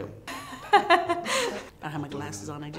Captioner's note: laughing